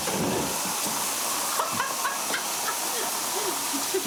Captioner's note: Madeleine laughs